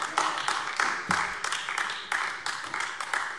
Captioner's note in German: Beifall AfD